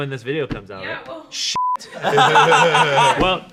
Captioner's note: beep